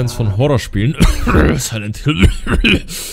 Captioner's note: cough